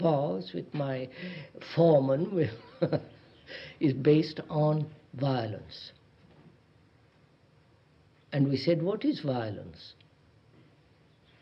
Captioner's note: laughs